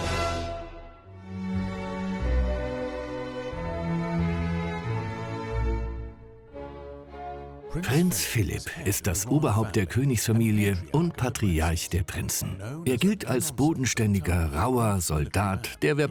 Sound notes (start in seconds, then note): 1.8 tranquil music; 7.7 voiceover